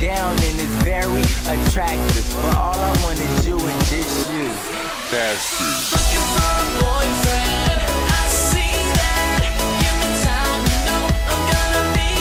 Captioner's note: laughs